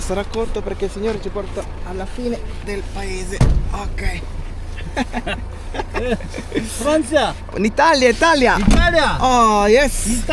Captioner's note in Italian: risate